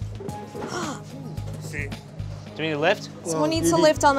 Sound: groans

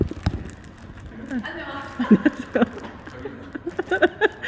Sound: laughing as if she can't believe she met me here at this time

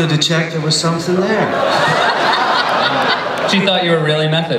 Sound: laughter

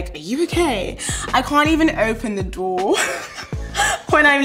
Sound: laughs

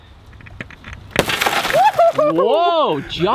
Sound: glass smashes

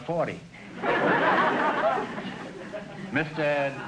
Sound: audience laughter

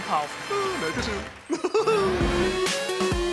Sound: chuckles

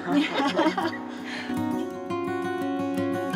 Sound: laughing

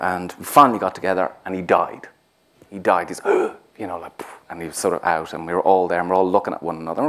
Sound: deep breath sound

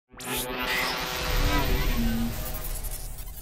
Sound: digital buzz

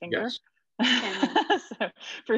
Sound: laughing

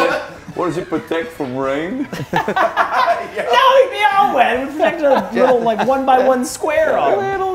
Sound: laugh

